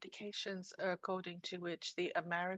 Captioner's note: speaking French